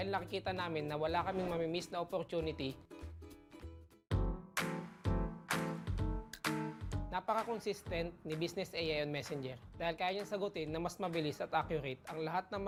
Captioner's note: speaking another language